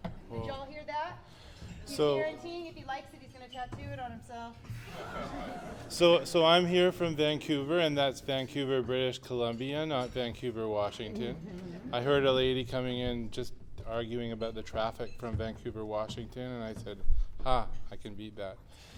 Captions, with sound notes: Did y'all hear that? So- He's guaranteeing if he likes it, he's gonna tattoo it on himself. [laughter] So I'm here from Vancouver, and that's Vancouver, British Columbia, not Vancouver, Washington. I heard a lady coming in just arguing about the traffic from Vancouver, Washington, and I said "Ha! I can beat that."